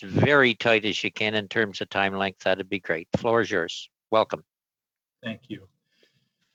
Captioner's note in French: voix de l'interprète